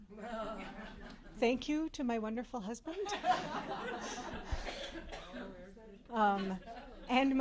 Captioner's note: laughter